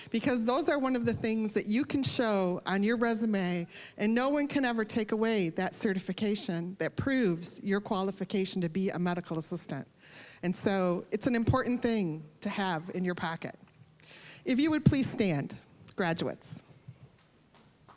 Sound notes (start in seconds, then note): none